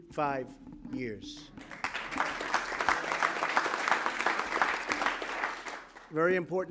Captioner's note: applause